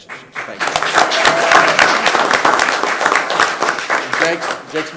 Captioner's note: attendees applauding and cheering